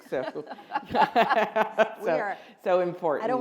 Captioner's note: all laugh